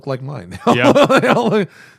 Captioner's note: laughter